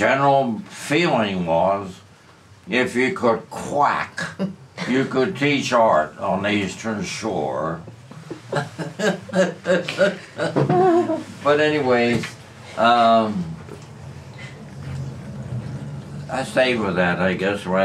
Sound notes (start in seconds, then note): 8.1 laughter